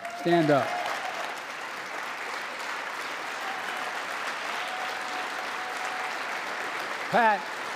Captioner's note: applause